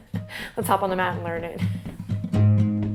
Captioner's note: laughs